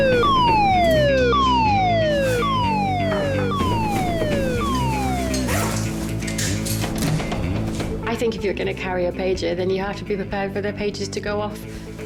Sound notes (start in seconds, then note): 0.2 dramatic music; 2.3 alarm blaring